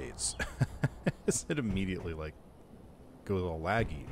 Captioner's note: laughs